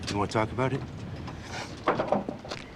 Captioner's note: sniffs